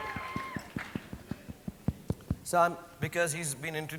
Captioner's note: audience cheering; tapping on mic